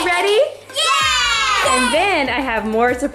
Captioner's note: all exclaiming